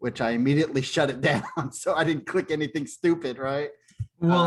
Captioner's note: laughter